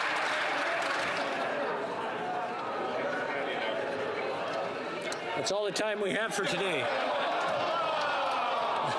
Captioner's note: some Applause